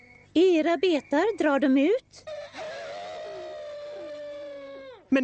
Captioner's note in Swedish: Elefanterna tutar